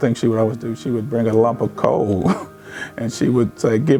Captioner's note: chuckles